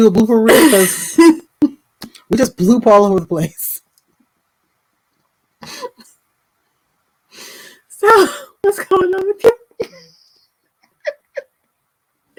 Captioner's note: laughter